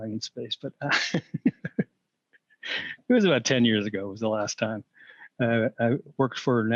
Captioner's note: laughter